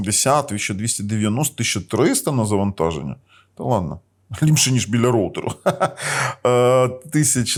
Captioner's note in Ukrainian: сміх